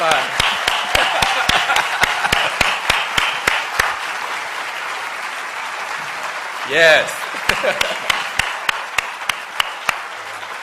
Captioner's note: applause